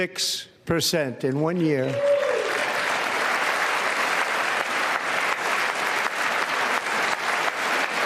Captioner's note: applause